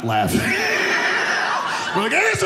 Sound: audience laughing

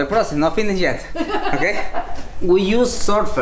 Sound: laughs

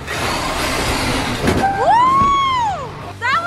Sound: car buzzing

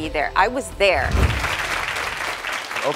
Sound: audience applauds

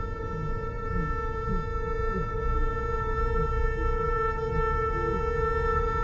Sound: muffled moans and grunts

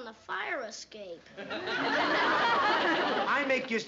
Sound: laughter

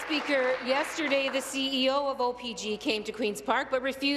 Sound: applause

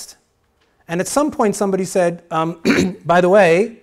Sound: clears throat

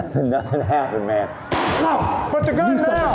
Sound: gun firing; whooshing

